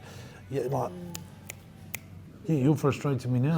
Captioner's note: snaps fingers